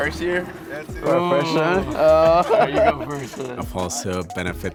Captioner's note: laughing